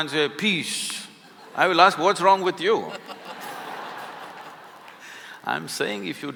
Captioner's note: laughter